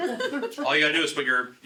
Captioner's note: laughing